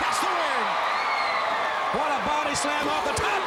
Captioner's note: crowd cheering